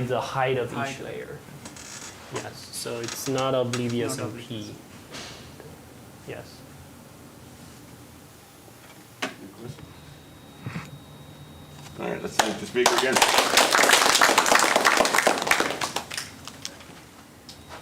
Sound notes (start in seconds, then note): 12.8 applause